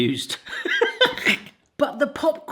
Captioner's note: laughing